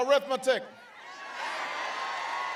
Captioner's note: applause